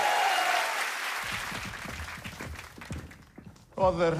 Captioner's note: cheers and applause